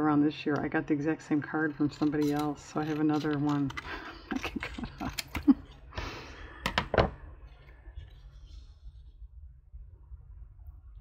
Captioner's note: laughs